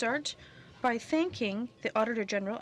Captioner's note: speaking French